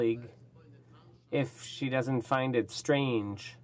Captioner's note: speaking French